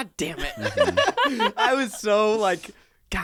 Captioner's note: everyone laughs